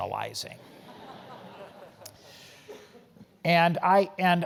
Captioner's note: laugh